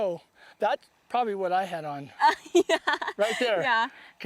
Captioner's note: laughter